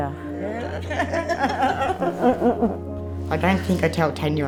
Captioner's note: laughter